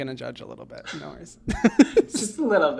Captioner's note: laughs